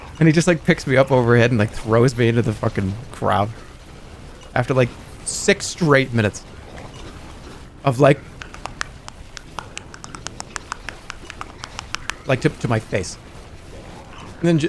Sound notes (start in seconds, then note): 9.1 boxing